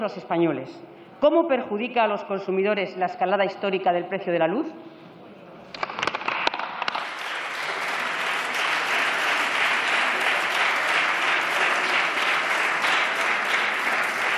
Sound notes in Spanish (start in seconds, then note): 8.8 Aplausos